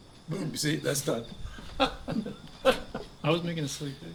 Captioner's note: chuckles